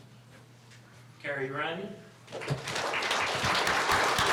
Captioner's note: applause